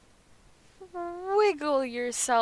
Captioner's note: whimper